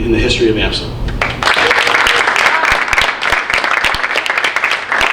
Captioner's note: audience applauding